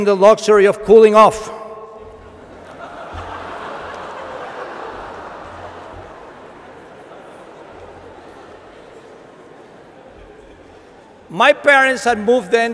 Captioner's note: laughter